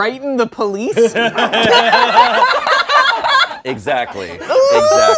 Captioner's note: all laugh